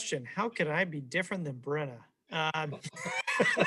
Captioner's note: laughing